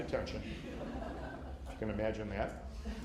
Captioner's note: laughter